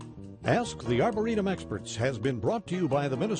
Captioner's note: voiceover